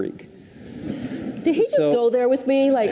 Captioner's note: audience chuckles